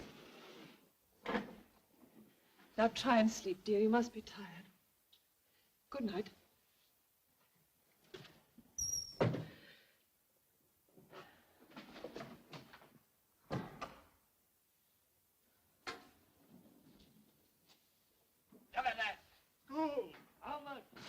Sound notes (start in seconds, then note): 8.8 door closes; 13.4 door closes from next room